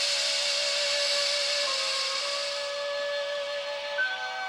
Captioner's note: air hissing